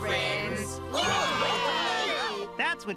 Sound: cheering

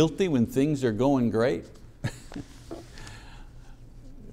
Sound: chuckles

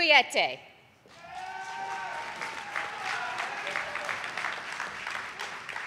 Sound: audience applauding

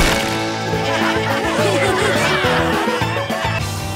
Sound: laughing

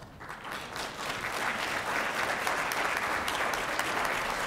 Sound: applause

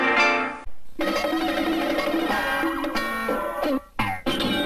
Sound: cartoon sounds

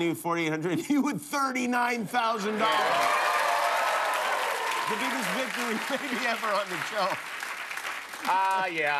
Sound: cheers and applause

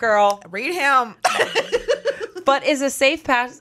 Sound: laughs

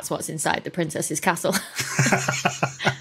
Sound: chuckles

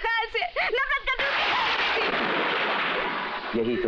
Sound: thunder crashing

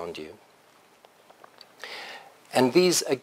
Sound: pause

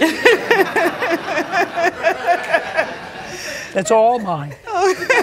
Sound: laughter

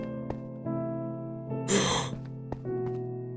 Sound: gasps

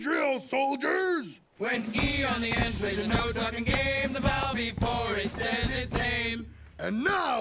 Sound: chanting

